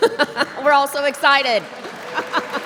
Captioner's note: laughs; audience applauds